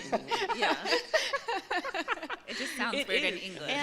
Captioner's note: laughter